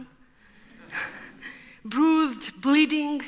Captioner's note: audience laughs